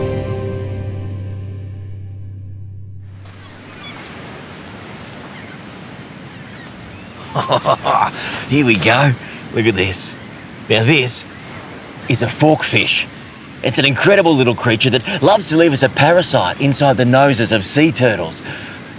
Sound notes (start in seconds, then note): 3.2 seagulls squawking; 7.2 laughs